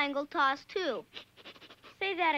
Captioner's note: snickering